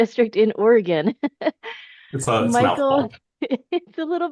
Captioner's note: chuckles